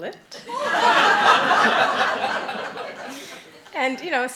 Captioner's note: laughing